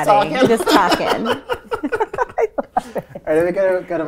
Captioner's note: laughing